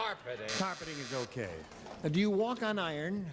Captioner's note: buzzer